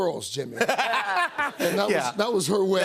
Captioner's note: laughter